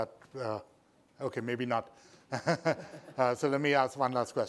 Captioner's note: laughs